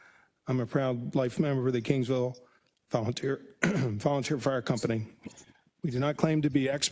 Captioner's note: cough